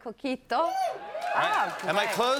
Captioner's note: audience cheers